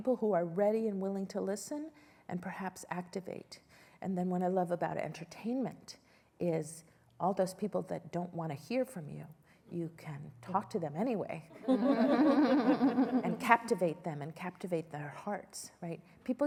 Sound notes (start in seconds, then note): 11.5 laughter